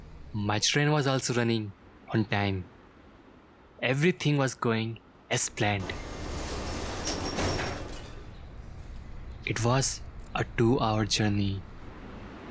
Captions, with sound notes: My train was also running on time. Everything was going as planned. [Metro Door Closing] It was... a two-hour journey.